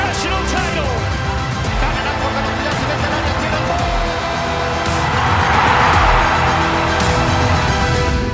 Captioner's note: crowd Cheers